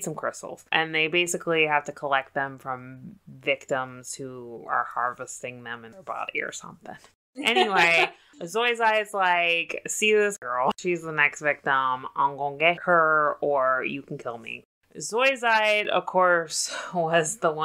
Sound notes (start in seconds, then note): 7.4 laughs